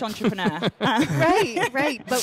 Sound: chuckling

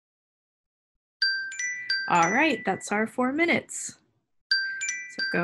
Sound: alarm Rings

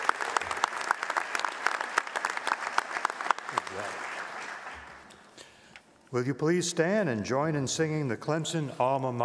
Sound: applause

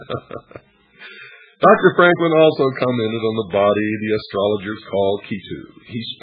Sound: laughter

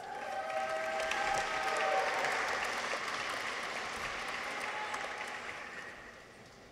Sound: people cheer; audience applauds

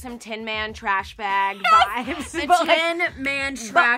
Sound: laughs

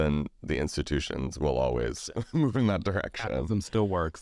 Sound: laughs

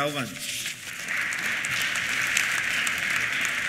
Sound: applause

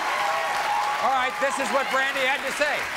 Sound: audience clapping

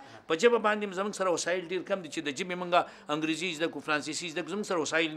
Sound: speaks in foreign language

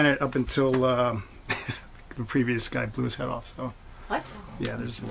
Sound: laughs

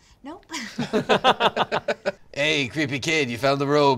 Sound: laughter

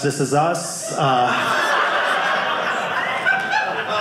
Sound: audience laughing

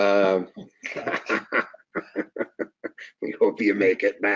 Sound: laughing

